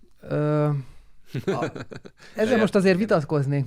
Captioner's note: laughs